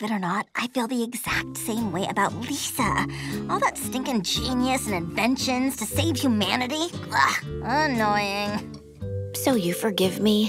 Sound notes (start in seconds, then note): 6.6 gagging